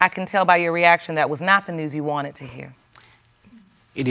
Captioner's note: none